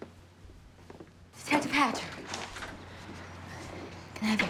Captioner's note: door opens